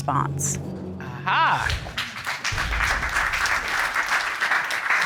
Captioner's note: audience applauding